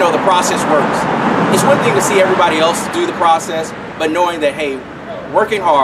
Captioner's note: car noise